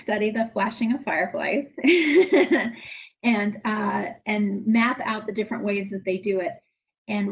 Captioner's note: laughs